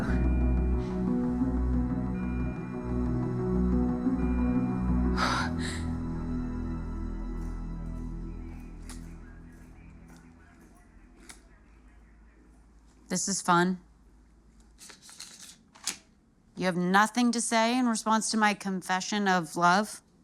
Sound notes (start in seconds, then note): 5.1 exhales